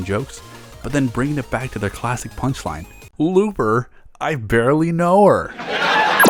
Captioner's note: laugh track